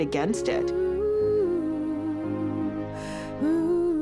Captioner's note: woman humming